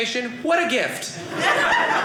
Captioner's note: audience laughing